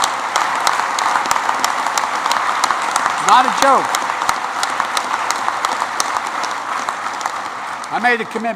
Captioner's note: applause